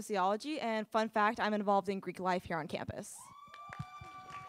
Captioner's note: applause